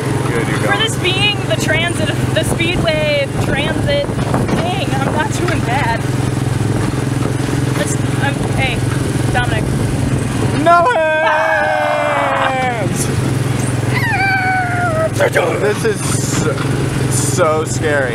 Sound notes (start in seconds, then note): 10.7 screaming; 14.0 screeching sound effect